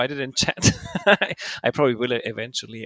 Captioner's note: laughing